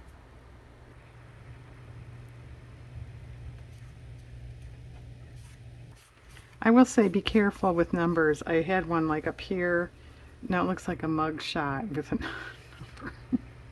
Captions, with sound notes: I will say be careful with numbers, I had one like up here, it looks like a mug shot (laughs)